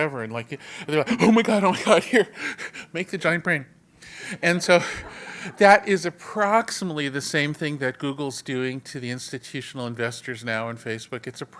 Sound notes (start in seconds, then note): 4.2 laugh